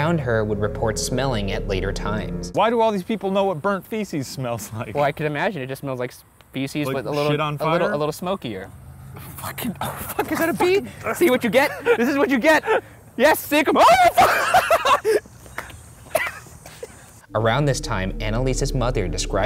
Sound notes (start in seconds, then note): 15.3 laughing